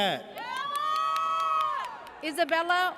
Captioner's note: audience cheers